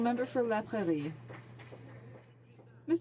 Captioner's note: some Applause